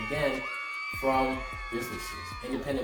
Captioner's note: cheers